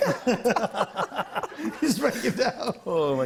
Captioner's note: laughter